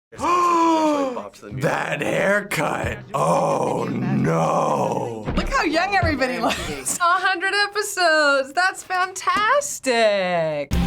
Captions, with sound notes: - (gasps) That haircut! Ohhh, nooo! - Look how young everybody looks! (chuckles) - 100 episodes! That's fantastic!